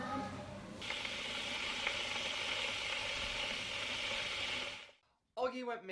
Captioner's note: kettle boiling